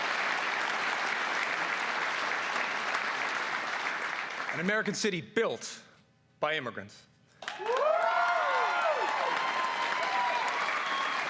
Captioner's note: cheers and applause